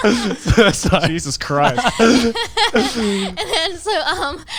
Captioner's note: laughing